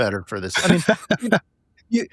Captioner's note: laughing